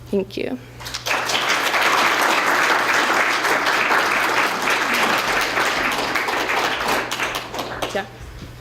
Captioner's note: applause